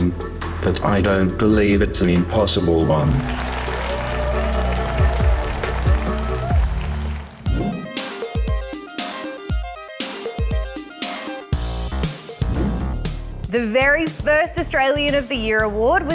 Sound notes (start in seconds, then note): 3.0 crowd applauds